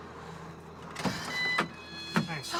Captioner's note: car beeps